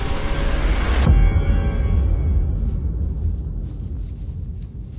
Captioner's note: footsteps pattering